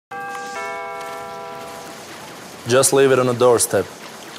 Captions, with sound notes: (Doorbell rings) Just leave it on the doorstep.